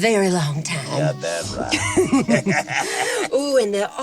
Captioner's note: chuckles